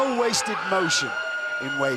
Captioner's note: crowd cheering